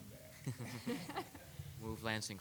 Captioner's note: attendees laughing